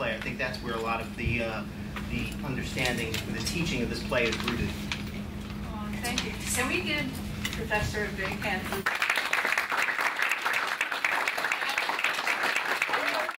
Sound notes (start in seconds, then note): 8.8 applause